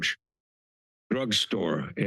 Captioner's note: pause